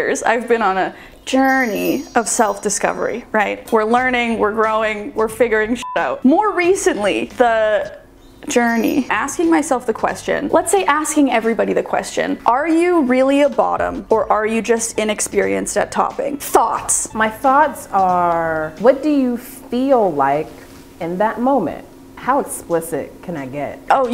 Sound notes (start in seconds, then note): 5.8 beeping sound